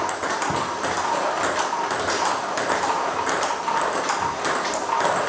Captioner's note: ball ping pong hitting continues